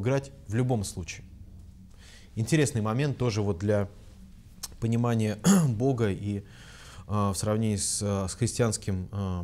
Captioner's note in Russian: откашлялся